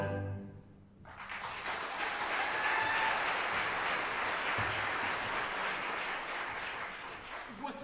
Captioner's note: applause